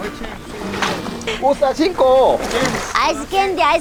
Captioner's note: joking in Bisaya